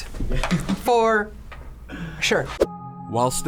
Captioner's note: React laughs